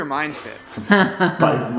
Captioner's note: wife chuckles